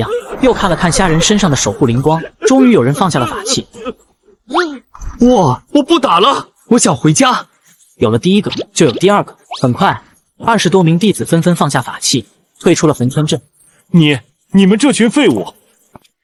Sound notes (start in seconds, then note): 4.2 sob